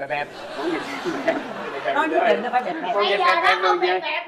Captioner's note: laughing